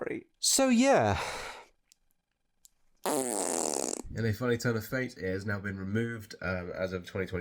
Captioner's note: blows raspberry while throwing my arms up